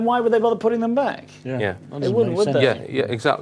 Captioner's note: noises of agreement